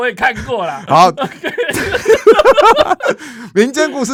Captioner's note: laughter